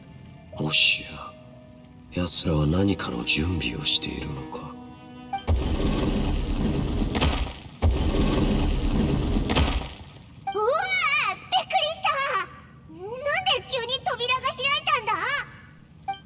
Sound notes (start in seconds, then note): 5.4 clunk * * clunk